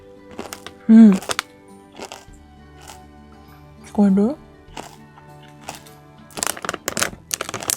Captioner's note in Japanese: 咀嚼音